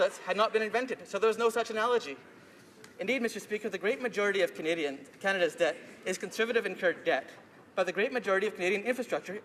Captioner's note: none